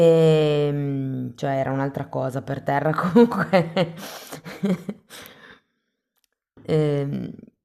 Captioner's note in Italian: risate